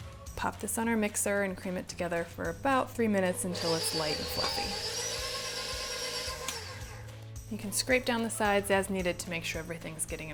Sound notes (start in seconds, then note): 3.4 mixer roaring